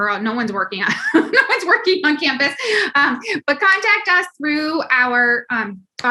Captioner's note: laugh